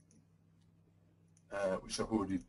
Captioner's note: pause